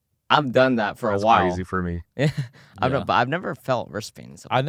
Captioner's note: laughs